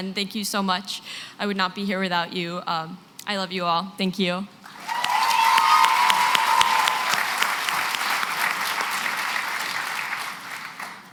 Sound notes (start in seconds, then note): 4.6 cheering and applause